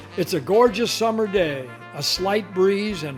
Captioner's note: voiceover